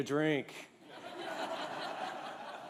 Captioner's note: laughter